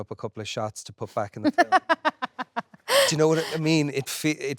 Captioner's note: Jessie laughing